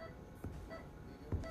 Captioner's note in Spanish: Sonido de telemetría